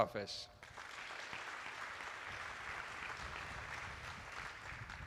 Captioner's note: attendees applauding